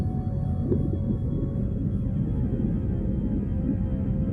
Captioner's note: water bubbling